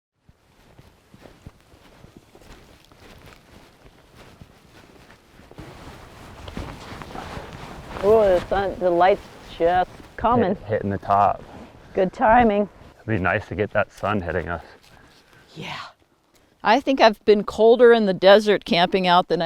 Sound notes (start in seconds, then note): 0.9 footsteps crunching